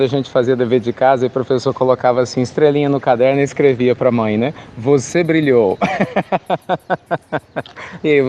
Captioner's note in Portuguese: Risos